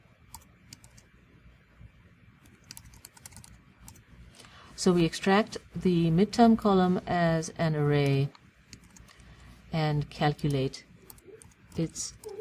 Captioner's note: pause